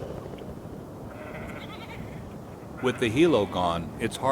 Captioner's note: sound of sheep